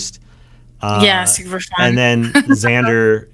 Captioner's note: laughing